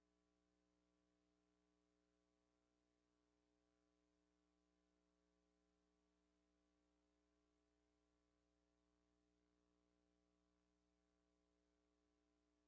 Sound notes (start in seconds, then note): none